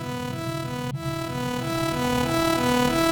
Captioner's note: Tali blaring a warning siren